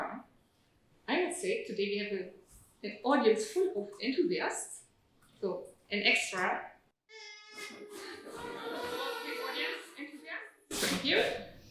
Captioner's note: audience toots